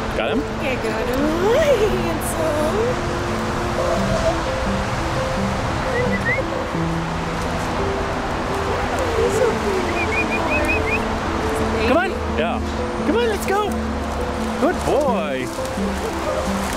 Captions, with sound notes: Got him? Yeah I got him. Hi handsome. [Whistle] Come on, it's okay baby [Whistle] boy. He's a baby. Come on. Yeah. Come on, let's go. Good boy.